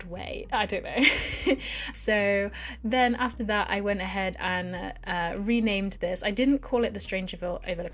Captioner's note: laughs